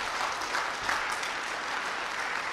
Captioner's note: applause